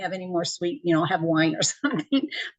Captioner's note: laughs